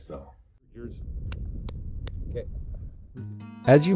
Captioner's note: clapping